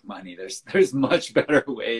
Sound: laughs

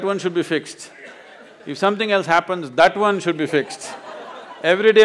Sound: laughter

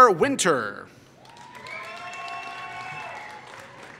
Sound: applause

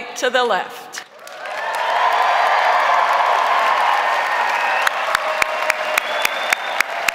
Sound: crowd applauding; crowd cheering

